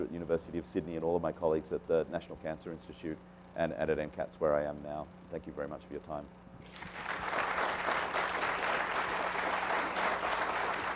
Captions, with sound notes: at the University of Sydney, and all of my colleagues at the National Cancer Institute, and at MCATs where I am now. Thank you very much for your time (applause)